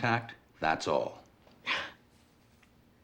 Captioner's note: scoffs